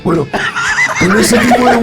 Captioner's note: laughs